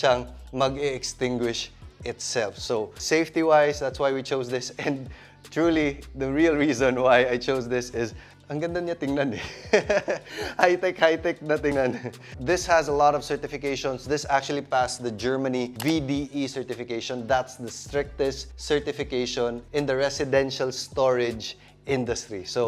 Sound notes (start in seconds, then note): 9.4 laughs